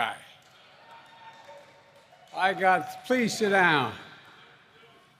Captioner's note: applause